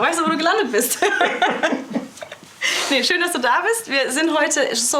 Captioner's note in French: Rires